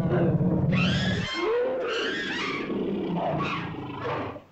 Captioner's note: dinosaur cries out; dinosaurs growl & snarl